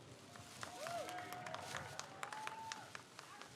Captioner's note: crowd cheers